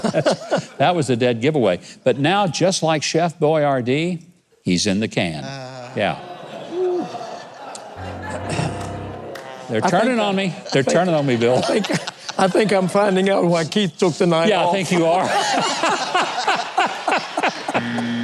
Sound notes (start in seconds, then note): 0.0 laughing; 7.8 crowd groaning; 7.9 piano clangs; 14.6 everyone laughing; 17.8 buzzer buzzing